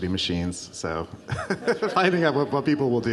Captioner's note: laughs